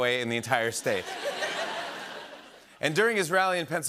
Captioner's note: laughter